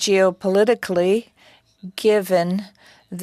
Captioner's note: speaking French